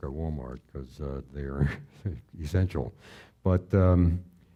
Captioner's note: chuckling